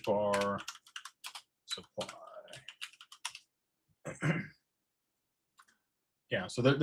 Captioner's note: clears throat